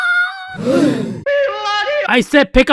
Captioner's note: BFDI Gasp